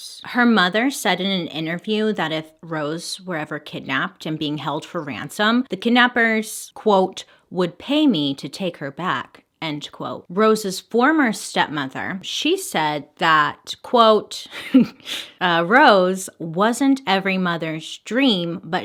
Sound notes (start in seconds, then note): 14.5 slight laugh